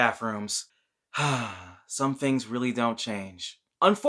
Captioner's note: dreamy sigh